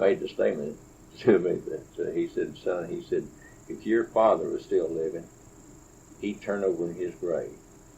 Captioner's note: laughs